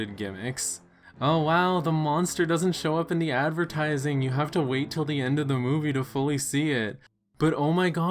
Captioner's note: sarcastic tone